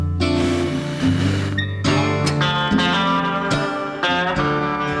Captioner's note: blowing